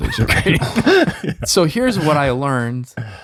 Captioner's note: group chuckling